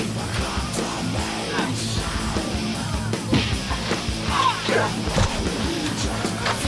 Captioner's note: people groaning; punches thudding